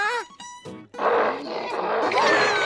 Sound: grunting; screaming

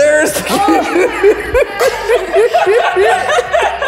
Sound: laughing

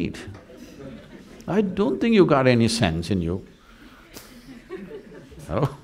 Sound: laughs

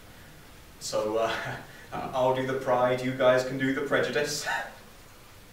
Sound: laughs

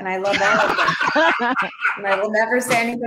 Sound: laughing

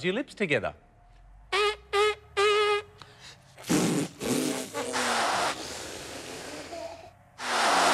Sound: buzzes lips

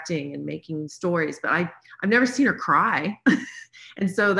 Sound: chuckles

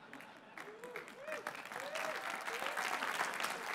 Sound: laughter

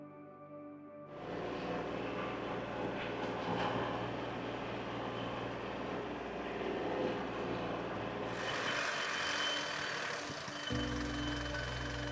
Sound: tractor engine whirring

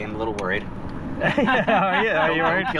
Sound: laughing

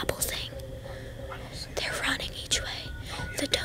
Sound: whispering

